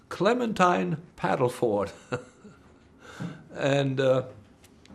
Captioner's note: laughing